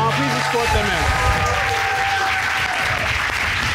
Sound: cheers and applause

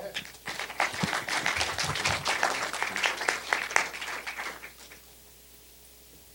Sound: applause

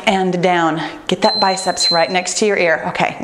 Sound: timer beeps

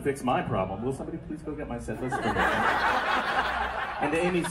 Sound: soft voice; crowd laughter

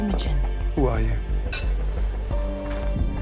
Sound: clink

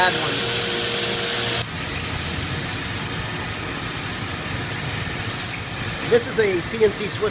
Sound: machine noise

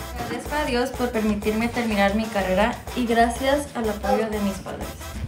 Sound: speaks in foreign language

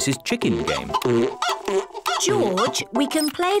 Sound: chicken clucking

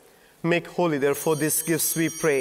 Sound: bells ringing

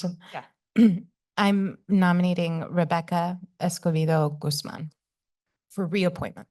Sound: clears throat

